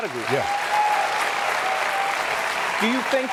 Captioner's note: applause and cheering